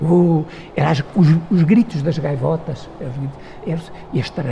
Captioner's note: wind